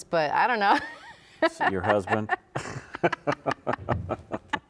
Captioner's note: laughs